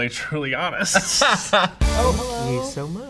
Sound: Bowen laughs

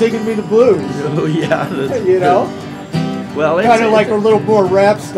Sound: laughs

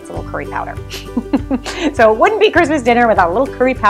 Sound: laughs

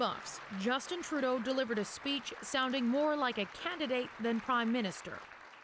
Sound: applause

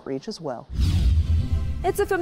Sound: transition whooshing

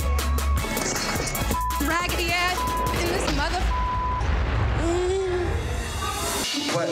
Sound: beep

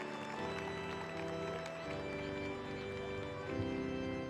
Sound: applause

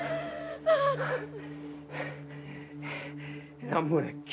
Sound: taking deep breath

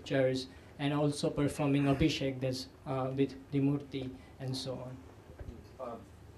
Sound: sanskrit

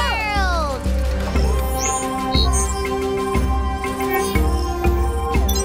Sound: beeping

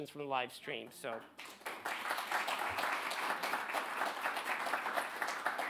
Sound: audience applauds

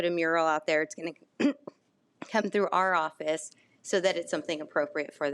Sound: clear throat

